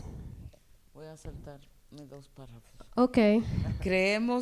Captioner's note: speaking spanish